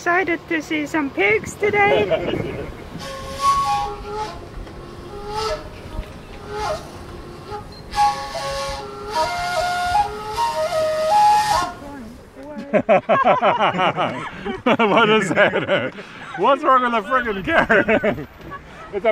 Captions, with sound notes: Excited to see some pigs today? [Flute] [LAUGHS] What is that? What's wrong with a carrot?